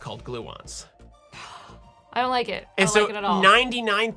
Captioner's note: frustrated Exhale